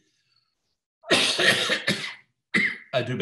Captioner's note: coughs